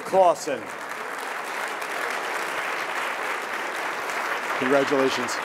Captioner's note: audience applauding